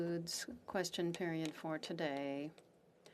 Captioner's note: speaking French